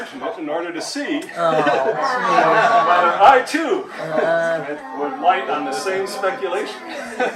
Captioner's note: laughter